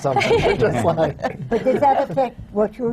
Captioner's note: laughter